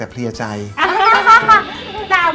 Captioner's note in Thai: หัวเราะ